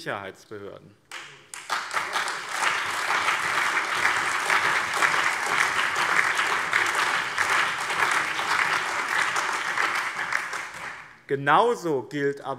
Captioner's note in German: Allgemeiner Beifall